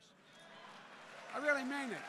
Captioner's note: applause